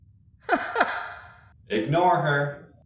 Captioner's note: Katja laughs